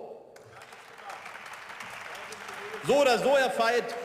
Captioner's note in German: Beifall